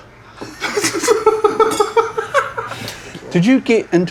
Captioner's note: laughing